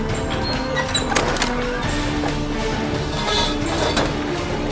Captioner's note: door clicking